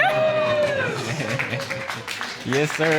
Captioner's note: scattered applause